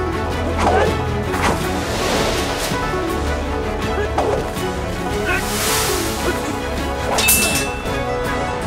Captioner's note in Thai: เสียงการต่อสู้